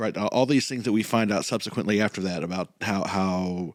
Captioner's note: none